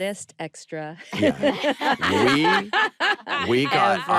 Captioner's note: laughter